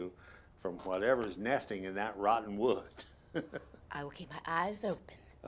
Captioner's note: laughs